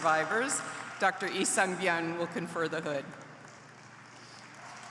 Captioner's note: applause